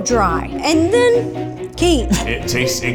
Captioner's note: coughs